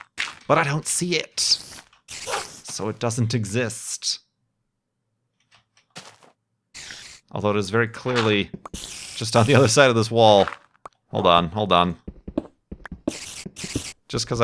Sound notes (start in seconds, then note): 6.7 louder spider noises